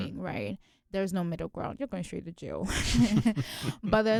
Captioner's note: both chuckle